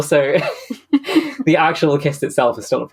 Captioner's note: laugh